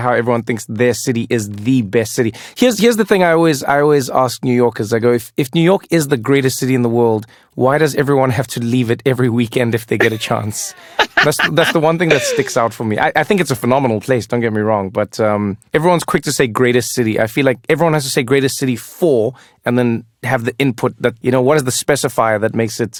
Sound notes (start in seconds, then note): 10.0 laugh